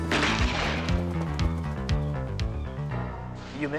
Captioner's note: gun firing